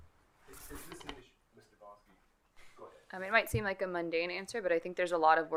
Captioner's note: speaking distantly